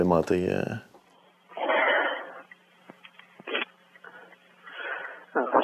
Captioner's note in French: respiration bruyante